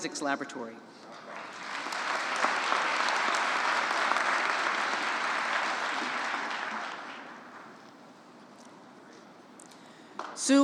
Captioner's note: applause